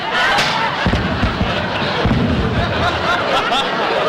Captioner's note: tinny Sounding Gun Shots; bodies Thudding on Ground; audience Laughing